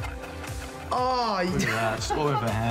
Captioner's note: laughs